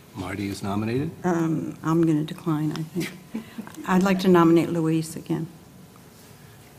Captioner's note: laugh